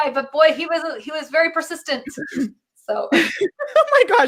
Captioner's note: clears throat; laughs